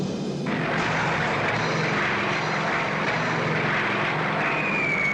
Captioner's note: tense dramatic music continues; airplane engines roaring; bombs blasting; bombs whistling